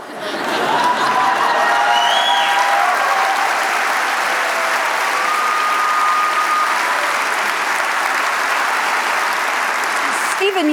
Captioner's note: laughter, cheers